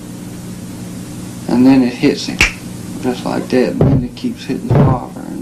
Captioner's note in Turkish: parmaklarını şıklatıyor